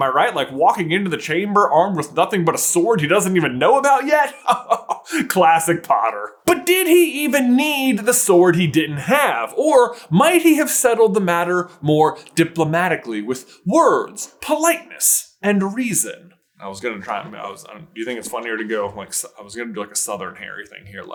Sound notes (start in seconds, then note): 4.3 chuckle